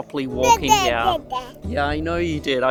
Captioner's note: babbles